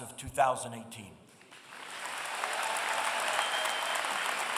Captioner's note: audience cheering